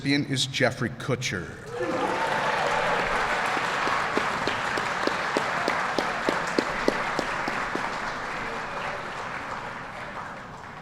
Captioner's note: applause